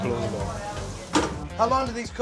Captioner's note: sizzling